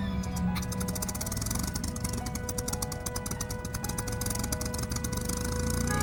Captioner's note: plane engine starting